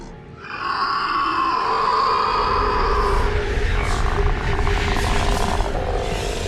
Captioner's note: eerie music; The Patriarch shrieking